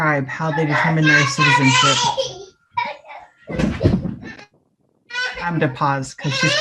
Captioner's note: child crying in background